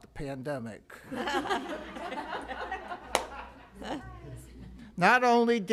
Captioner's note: laughter